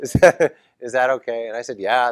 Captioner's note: laugh